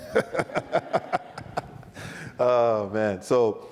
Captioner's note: laughs